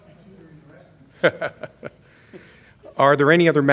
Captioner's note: laughter